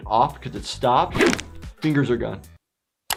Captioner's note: cartoon cracking